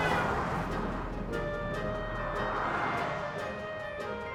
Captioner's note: traffic whooshing